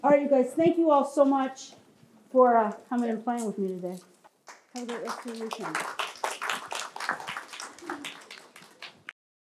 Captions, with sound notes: Alright, you guys. Thank you all so much for coming and playing with me today. (applause)